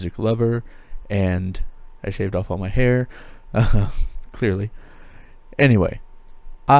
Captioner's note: laughs